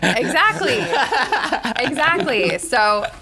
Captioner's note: laughter